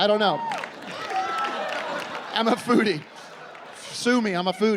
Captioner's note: laughing